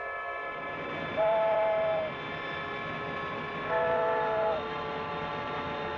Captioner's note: train Whistle Blowing